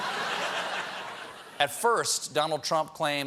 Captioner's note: laughter